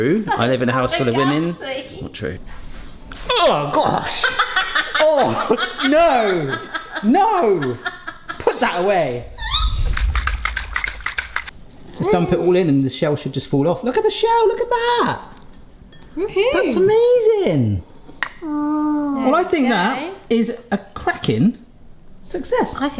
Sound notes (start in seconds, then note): 3.1 gagging; 6.4 laughing; 9.9 egg shells cracking